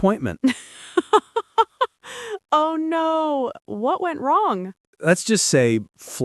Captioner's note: laughing